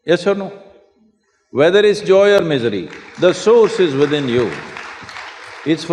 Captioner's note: applause